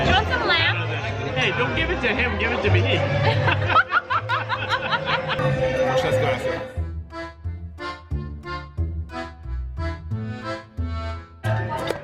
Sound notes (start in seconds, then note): 0.0 crowd talking; 3.3 laughs; 7.4 accordion music